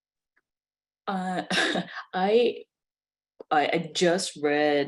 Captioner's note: laughs